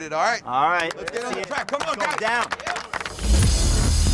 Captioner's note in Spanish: aplausos